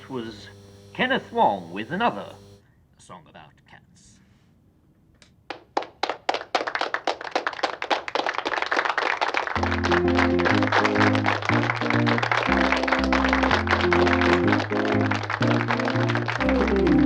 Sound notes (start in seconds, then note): 5.6 applause playing; 9.5 upbeat music